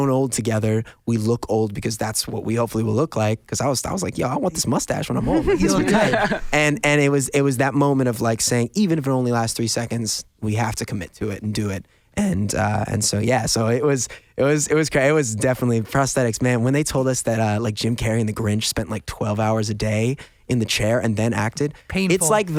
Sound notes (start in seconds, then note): 5.2 laughs